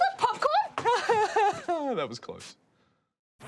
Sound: laughs awkwardly

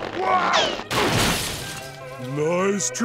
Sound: thudding

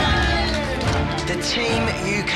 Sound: crowd cheers

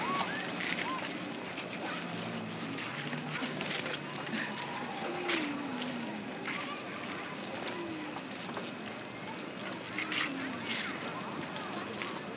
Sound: city street sounds

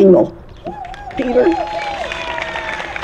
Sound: applause

